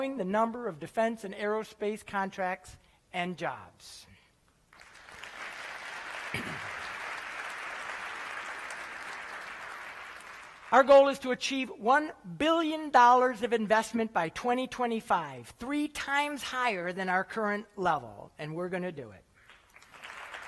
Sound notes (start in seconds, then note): 4.7 applause; 19.4 applause